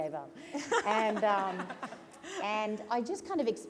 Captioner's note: laughter